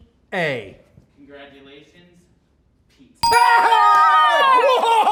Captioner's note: bell rings